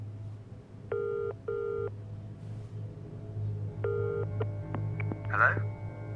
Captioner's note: suspenseful music; phone ringing